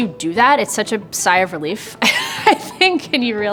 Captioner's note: chuckles